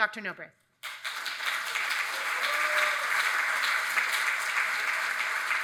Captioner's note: attendees applauding